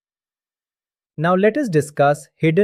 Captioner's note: pause